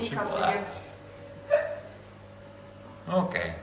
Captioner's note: laughs